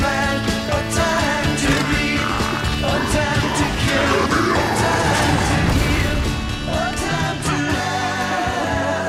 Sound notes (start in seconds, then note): 3.9 roaring